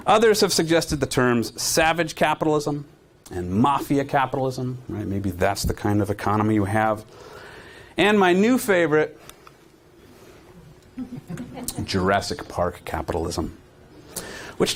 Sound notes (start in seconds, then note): 10.9 audience chuckling